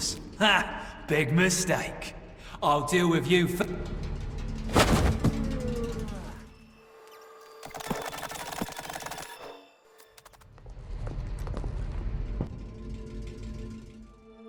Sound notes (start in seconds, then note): 4.6 cloth swish; 4.6 mugger yawns after being choked out; 7.6 FF whirring; 10.7 footsteps thud; 12.6 soft, dark music